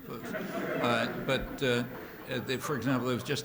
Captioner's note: laughter